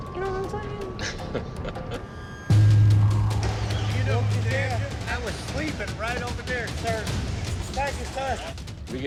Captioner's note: chuckles